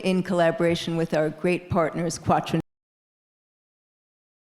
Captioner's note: faintly speaking